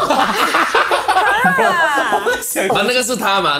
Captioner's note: laughs